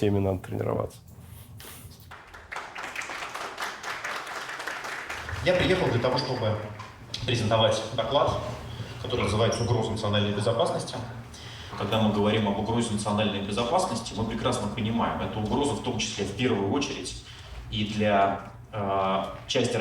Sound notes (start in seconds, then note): 2.0 applause